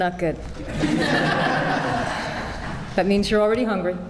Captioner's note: laughter